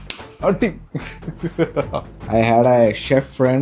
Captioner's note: laugh